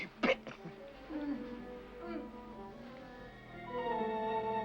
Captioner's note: female grunting sounds; ominous music